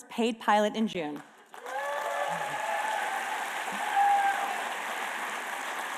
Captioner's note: applause